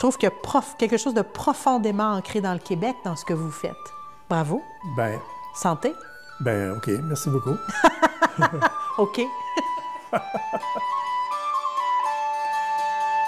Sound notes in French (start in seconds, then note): 9.5 rires